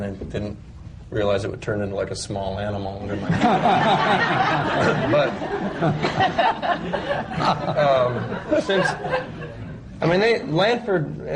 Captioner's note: laughter